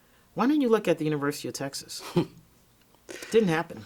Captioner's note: interviewer chuckles